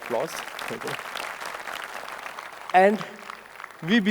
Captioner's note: audience applauding